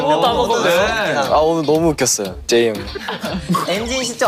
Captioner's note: I laughed a lot